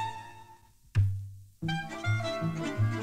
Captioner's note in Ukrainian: глухий удар